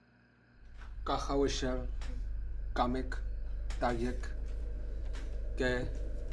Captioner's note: Louis speaking in foreign language